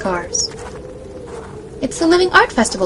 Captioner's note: snow and Wind continues, sound of footsteps crunching through the snow